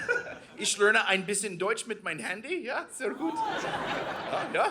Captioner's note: audience laughing; speaking in German